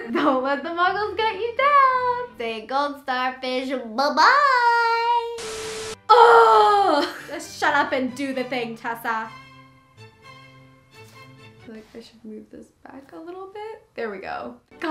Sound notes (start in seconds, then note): 6.0 groan; 9.3 classical string music